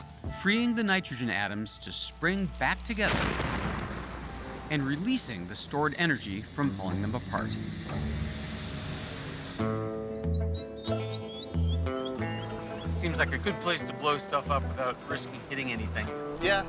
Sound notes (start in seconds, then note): 3.0 explosion